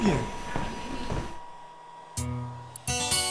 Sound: shoes stomping

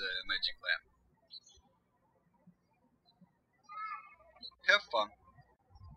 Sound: birds chirping

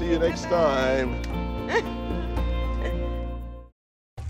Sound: laughs

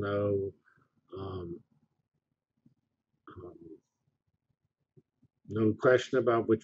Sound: pause

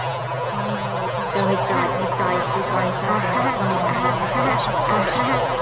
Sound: disembodied voices and ethereal droning; slow exaggerated laughter; disembodied voices echoing

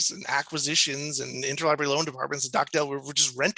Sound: stammers

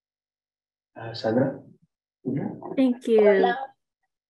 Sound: speaking in Spanish

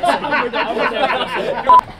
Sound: laughter

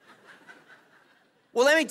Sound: laughs; congregation laughing

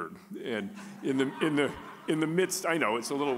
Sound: audience laughing

